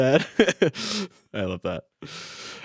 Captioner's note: laughing